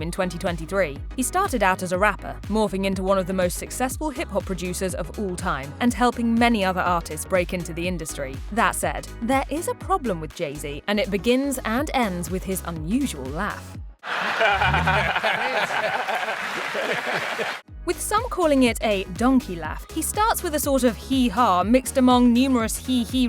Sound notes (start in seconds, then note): 14.0 laughing